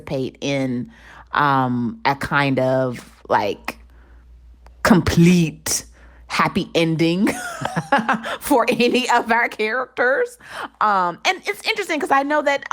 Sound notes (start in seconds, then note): 7.2 laughter